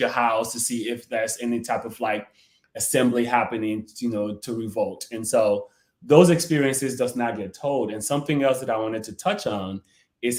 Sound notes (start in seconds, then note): none